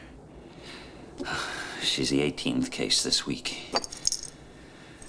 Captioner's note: sighing